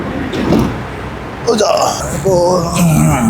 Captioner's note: old man's voice